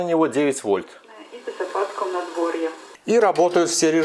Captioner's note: radio station broadcast